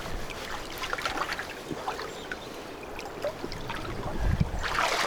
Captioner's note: water sounds